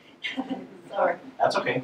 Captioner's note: voiceover